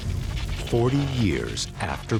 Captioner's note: buzzing and crackling